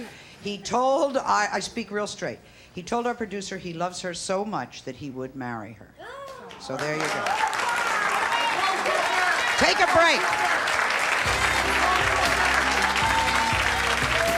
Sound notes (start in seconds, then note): 6.6 audience applauding; 11.2 jazzy music